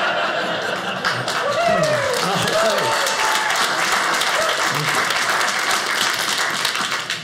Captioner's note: audience laughing; audience cheering